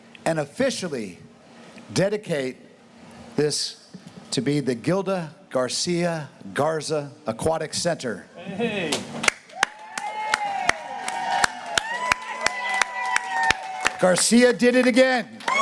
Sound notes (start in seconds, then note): 9.2 clapping; 9.2 crowd cheering